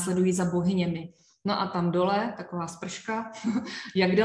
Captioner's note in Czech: smích